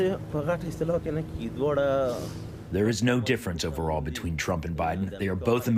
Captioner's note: through translator